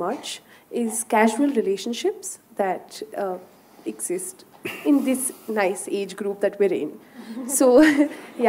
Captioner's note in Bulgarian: смехове